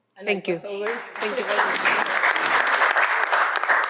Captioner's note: applause